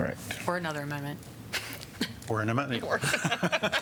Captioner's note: laughter